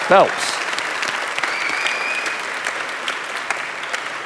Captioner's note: audience applauding